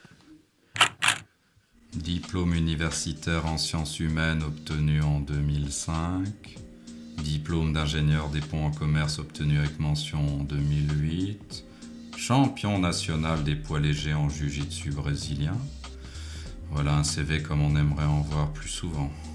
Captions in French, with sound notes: [clic photo] Diplôme universitaire en science humaine obtenu en 2005. Diplôme d'ingénieur des ponts en commerce obtenu avec mention en 2008. Champion national des poids légers en jujitsu brésilien? Voilà un CV comme on aimerait en voir plus souvent.